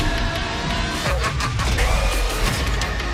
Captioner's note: maniacal laughter